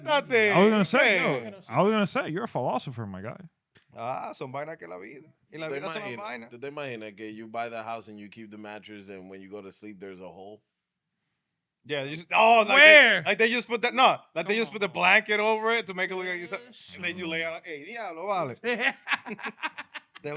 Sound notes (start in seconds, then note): 4.4 speaking In Foreign Language; 18.1 speaking In Foreign Language; 18.4 laughing; 20.2 speaking In Foreign Language